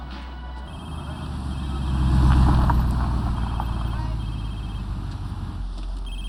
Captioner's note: phone rings